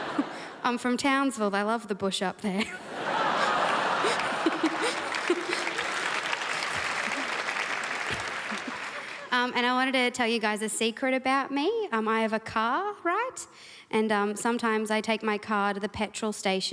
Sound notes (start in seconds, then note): 2.6 crowd laughs